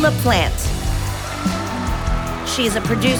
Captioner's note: audience applauding